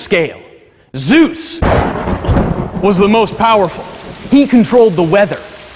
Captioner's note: thunder claps, rain pours